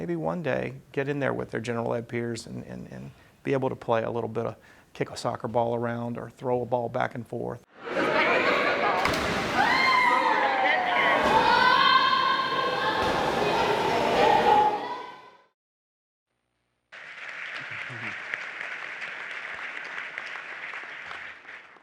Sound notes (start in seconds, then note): 8.2 people talking, splashing, and swimming in the pool; 16.9 applause